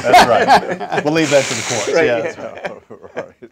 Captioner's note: all laugh